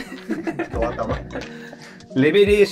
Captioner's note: laughing